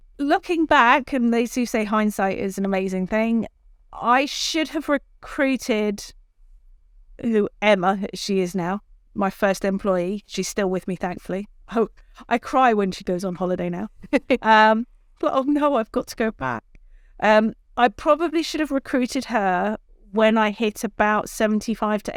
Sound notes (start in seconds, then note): 14.0 chuckles